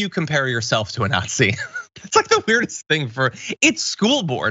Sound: laugh

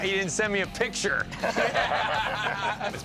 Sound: laughs

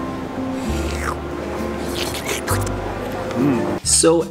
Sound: both slurping

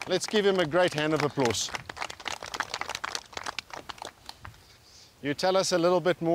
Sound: applause

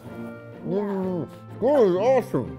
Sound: father speaking muffled

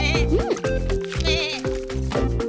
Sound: bleating

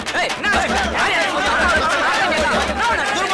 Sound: general commotion

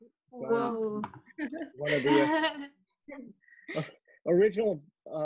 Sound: giggling

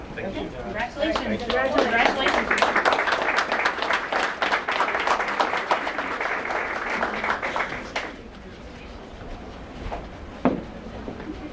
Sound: applause

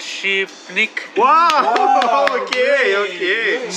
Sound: cheering

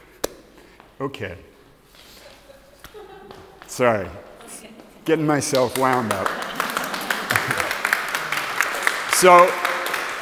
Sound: applause

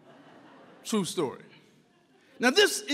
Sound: audience laughs

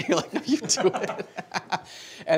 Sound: laughter

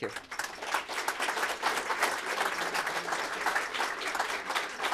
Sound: applause

